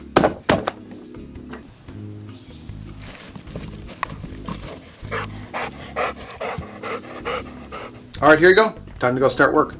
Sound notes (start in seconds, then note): 4.6 dog pants